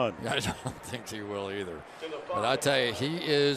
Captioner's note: laughs